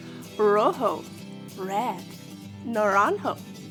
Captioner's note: speaking in foreign language